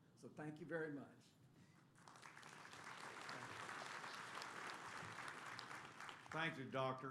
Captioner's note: applause